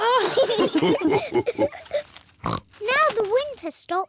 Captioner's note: all laugh